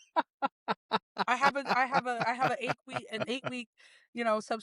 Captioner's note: both Laughing